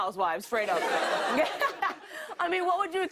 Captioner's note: laughter